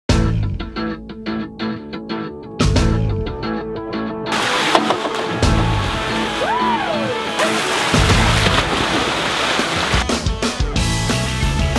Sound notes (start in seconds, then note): 0.0 upbeat music; 5.2 cheering; 8.2 upbeat music